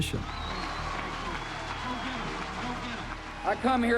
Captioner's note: crowd cheering and applauding